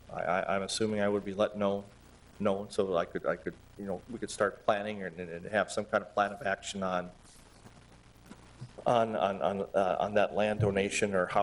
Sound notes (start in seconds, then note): 8.1 stammering